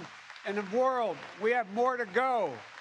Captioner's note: applause